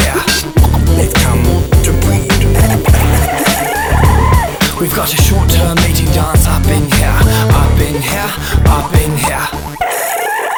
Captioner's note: scratch